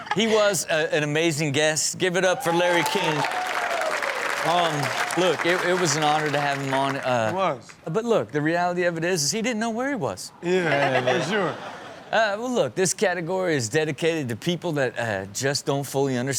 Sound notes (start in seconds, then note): 2.2 crowd cheers